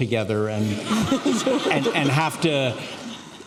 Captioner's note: laughing